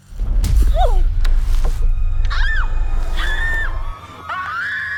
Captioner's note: screams